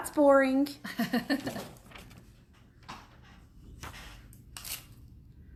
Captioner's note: woman laughs